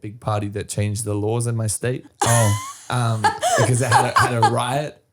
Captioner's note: laughing